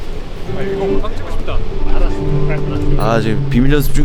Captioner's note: stomp, stomp